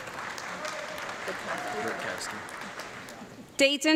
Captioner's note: audience clapping